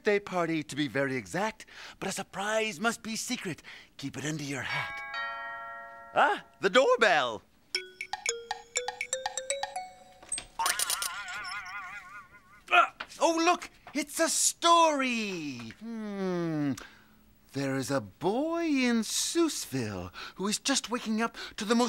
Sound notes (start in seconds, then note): 4.8 doorbell rings; 10.5 boing!